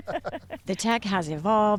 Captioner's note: laughter